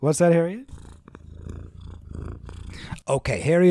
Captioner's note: incredibly offensive purring